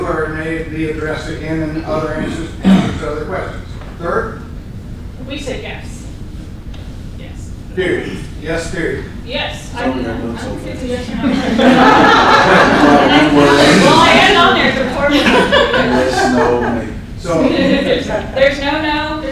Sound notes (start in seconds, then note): 11.2 laughter